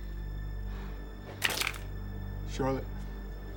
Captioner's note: necklace hits the floor